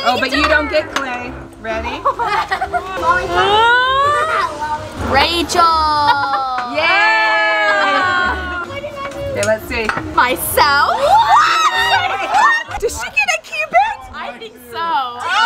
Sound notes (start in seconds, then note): 2.0 laughing; 11.0 screaming